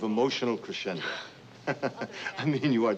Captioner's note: laughs